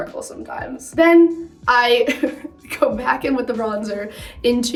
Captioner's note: giggles